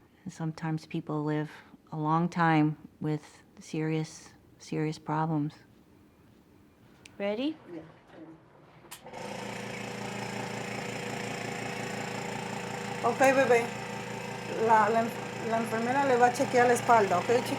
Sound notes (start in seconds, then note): 8.9 whirring; 14.9 speaking Spanish